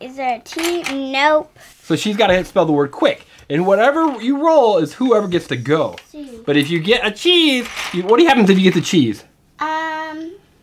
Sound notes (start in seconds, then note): 2.1 voiceover